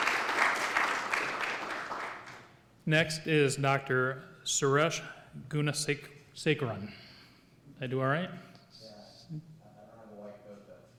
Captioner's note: applause